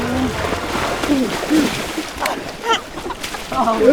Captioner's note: water splashing; cadet grunting; cadets laughing